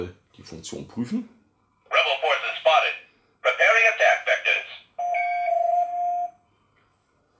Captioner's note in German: Beeping Sounds